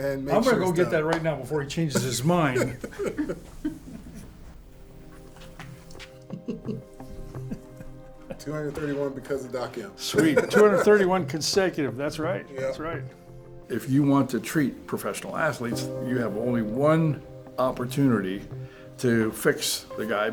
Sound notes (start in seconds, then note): 1.9 laughter